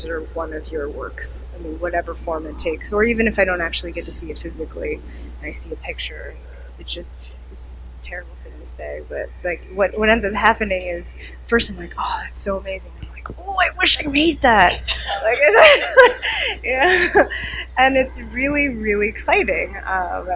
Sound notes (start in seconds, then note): 13.6 laughing